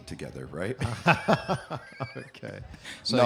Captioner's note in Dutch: Lacht